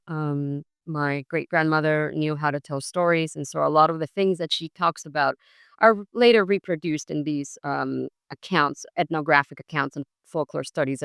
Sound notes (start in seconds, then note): none